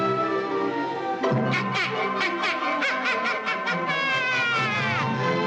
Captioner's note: the Witch Laughs Maliciously